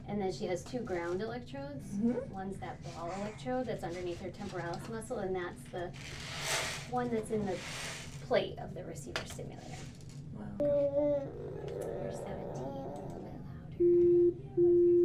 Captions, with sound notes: And then she has two ground electrodes. One that's ball electrode that's underneath her temporalis muscle. And that's the one that's in the plate of the receiver simulator. (beeps)